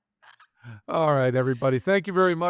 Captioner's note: laughing